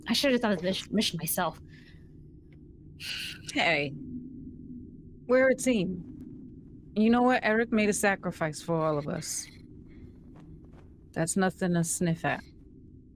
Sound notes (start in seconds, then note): none